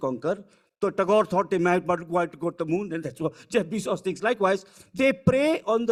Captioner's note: speaking foreign language